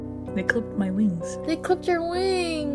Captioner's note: serious low voice